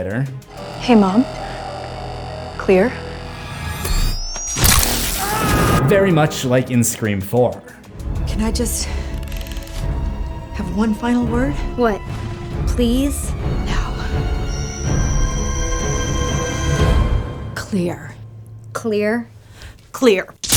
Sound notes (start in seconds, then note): 4.6 electricity; 5.0 screaming